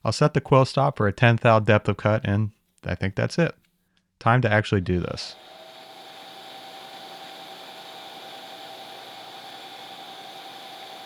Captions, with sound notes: I'll set the quill stop for a 10 thou depth of cut, and I think that's it. Time to actually do this. (machine whirring)